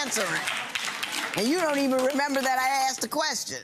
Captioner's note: applause